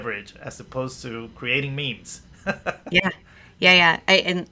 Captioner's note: laughs